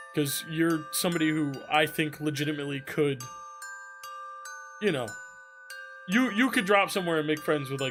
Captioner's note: none